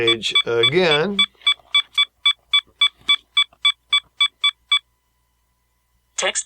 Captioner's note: beeping